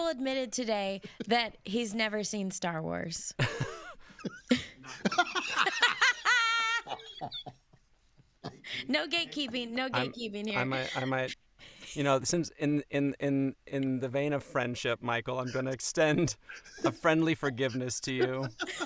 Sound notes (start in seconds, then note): 3.4 both laughing; 3.4 laughs; 18.0 both laughing